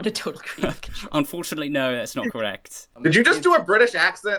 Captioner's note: British accent